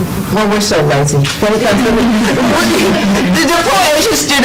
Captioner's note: laughter